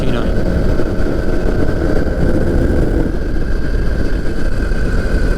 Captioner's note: microlight engine roaring